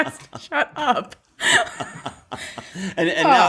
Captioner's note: laughter